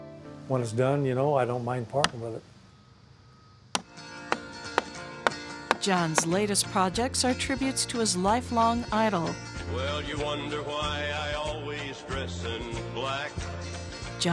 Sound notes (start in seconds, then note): 3.3 hammering wood